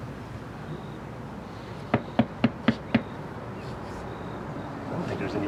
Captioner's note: knocks on door